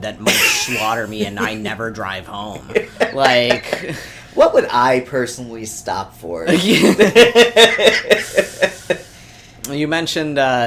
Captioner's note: laughs